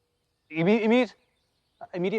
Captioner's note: stammering